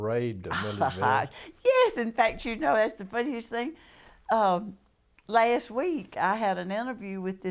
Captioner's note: laughter